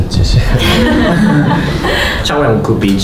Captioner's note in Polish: śmiechy